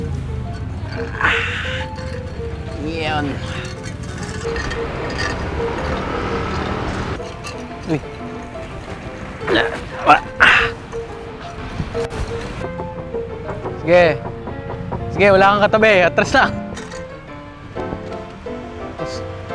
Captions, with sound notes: (grunts) There. (grunts) Go ahead. You don't have anything beside you. Just continue.